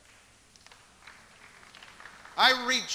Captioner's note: scattered light applause